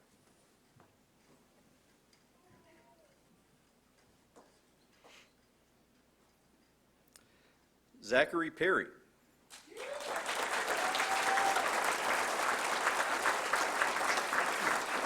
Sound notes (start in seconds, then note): 9.5 applause